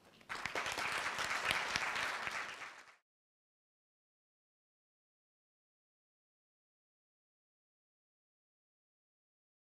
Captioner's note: applause